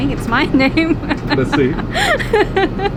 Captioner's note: laughs